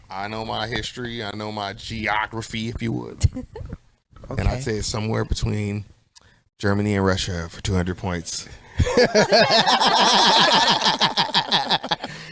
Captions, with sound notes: I know my history, I know my geography, if you would. I say somewhere between Germany and Russia for 200 points (laughs)